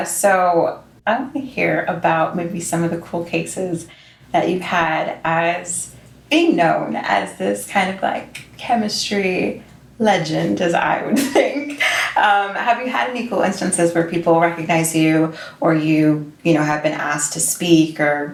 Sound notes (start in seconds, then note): 11.1 chuckles